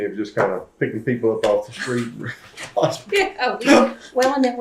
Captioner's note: laughs